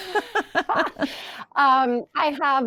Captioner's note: people laughing